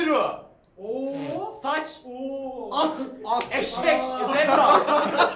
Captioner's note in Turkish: gülüşmeler